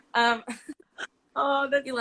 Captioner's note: both laugh